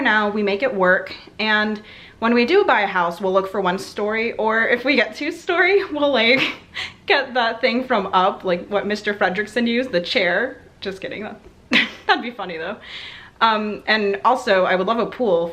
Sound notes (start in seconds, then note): 6.3 laughs